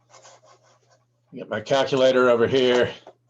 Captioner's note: typing on calculator